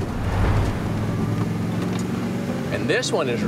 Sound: air whooshing

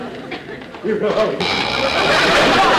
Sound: audience laughter; ladder creaking; audience laughter

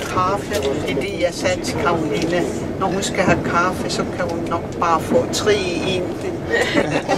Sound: laughing

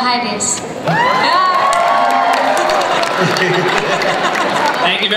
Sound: cheering, applause

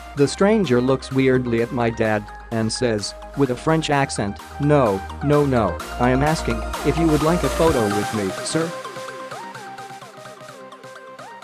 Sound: with a French accent

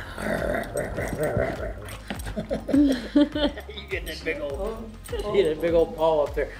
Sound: growling sounds

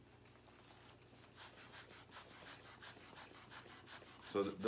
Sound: air bulb puffing

